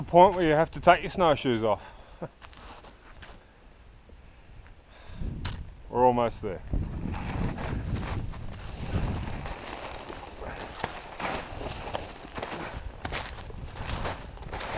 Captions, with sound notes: where you have to take your snow shoes off. We're almost there. (footsteps crunching) (heavy breathing)